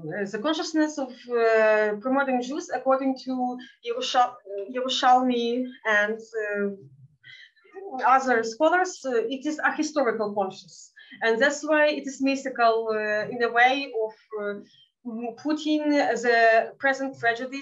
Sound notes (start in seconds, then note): 4.1 speaking in Yiddish